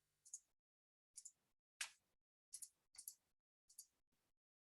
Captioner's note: mouse clicking